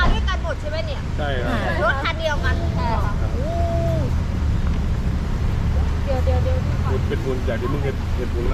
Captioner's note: truck sound